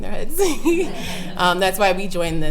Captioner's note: laughing